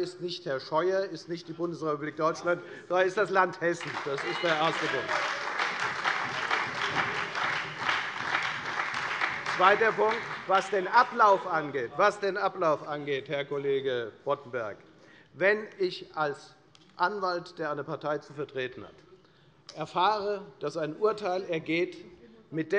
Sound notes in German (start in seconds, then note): 5.5 Lebhafter Beifall bei der FDP und der SPD